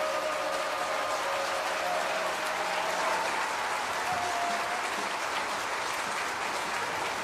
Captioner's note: crowd cheering